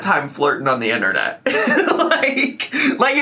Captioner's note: laughs